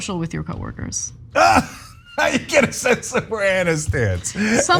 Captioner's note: laugh